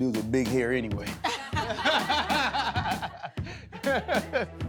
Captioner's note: laughter